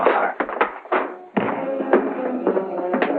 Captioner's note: punch thuds